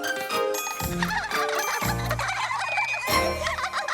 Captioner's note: laughing